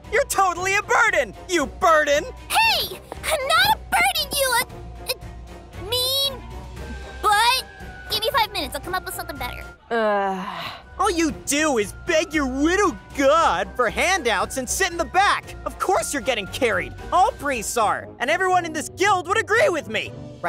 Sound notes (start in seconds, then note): 2.8 footsteps tap; 11.6 tense orchestral music